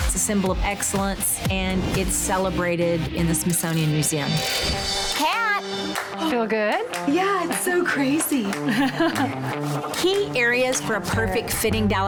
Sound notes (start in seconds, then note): 8.4 laughing